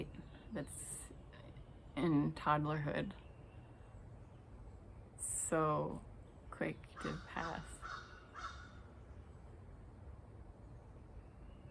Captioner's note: bird sounding